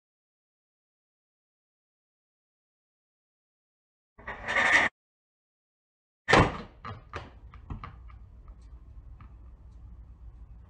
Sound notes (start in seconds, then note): 6.4 thud